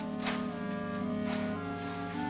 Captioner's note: door opens